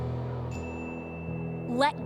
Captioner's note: ding!